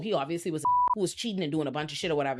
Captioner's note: beep